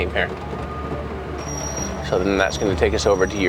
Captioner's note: brakes squeaking